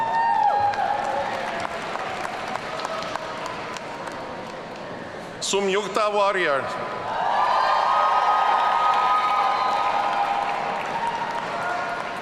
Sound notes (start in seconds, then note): 0.0 audience cheering; 7.1 audience cheering